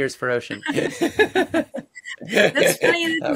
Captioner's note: laughs